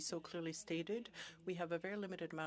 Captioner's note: speaking French